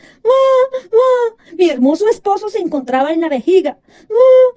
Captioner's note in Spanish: llorando